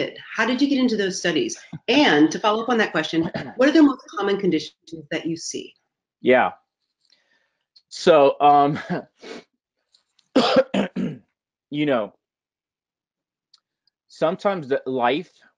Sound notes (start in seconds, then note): 10.3 coughing